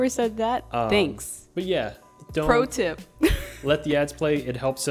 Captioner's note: laughs